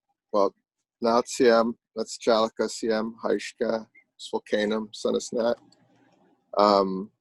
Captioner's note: speaking Lummi dialect